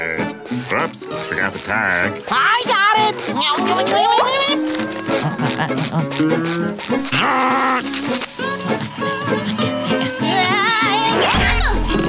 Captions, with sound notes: Whoops, forgot the tag. I got it! [growling]